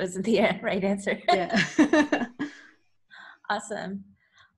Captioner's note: laughing